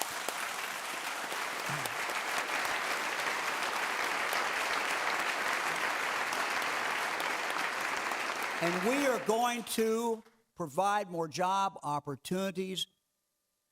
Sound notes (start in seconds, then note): 8.1 clapping